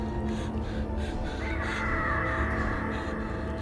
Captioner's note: bird cries